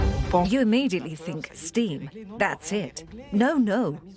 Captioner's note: voiceover